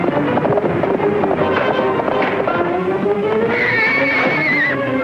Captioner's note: blows pounding; horse whinnying